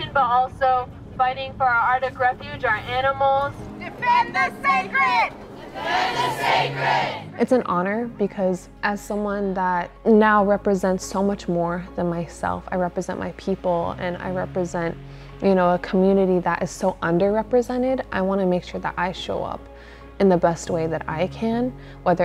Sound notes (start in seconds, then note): 3.9 crowd